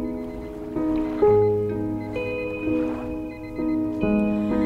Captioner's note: alarm beeping